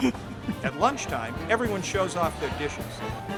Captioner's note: laughs